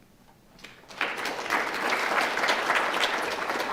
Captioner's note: applause